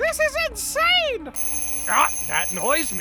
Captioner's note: alarm clock SFX